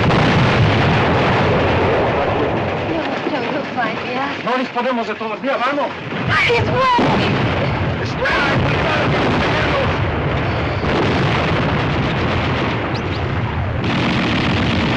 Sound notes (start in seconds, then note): 6.7 shouting